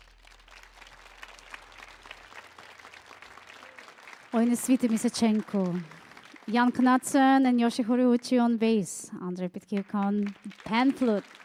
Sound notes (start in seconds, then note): 0.0 audience applauding; 4.0 speaking foreign language; 9.8 audience applauding